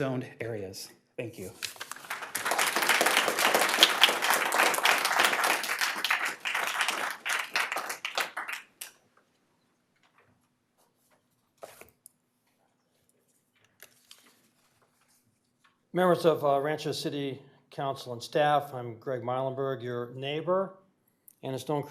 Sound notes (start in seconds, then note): 8.0 applause